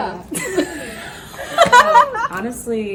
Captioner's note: laugh